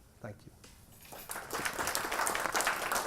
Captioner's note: applause